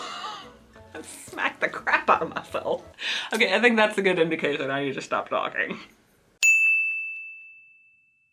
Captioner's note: ding